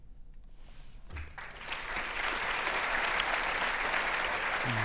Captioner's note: audience applauding